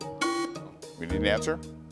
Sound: alarm buzzes

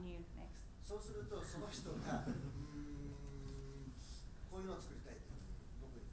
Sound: speaking in foreign language

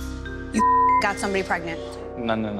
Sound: beep

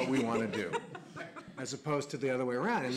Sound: audience laughs

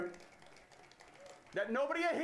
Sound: audience cheers

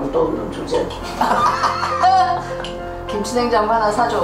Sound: laughing

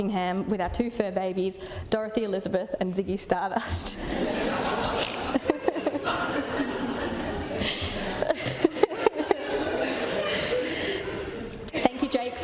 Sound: laughter

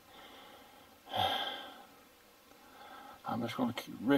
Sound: sighing

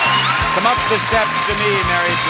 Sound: bell ringing

